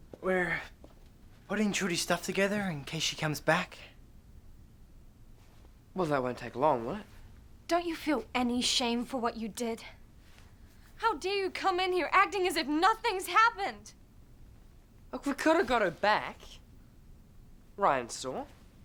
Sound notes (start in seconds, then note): none